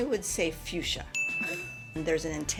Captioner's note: bell dinging